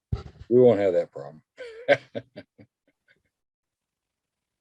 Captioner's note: chuckles